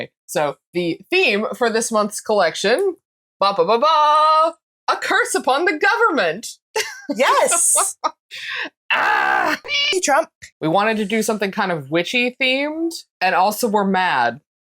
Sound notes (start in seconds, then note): 9.6 meow